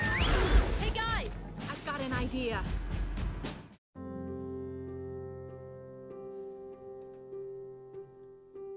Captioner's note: whistles